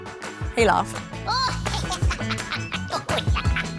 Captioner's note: laughs